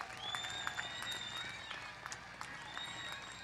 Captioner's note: applause